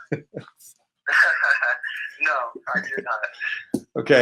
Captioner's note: laughs